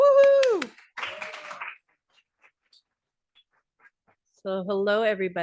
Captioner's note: audience applauding